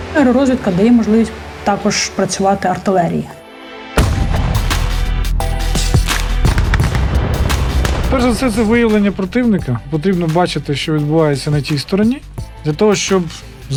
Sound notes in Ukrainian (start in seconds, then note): 5.7 звуки пострілів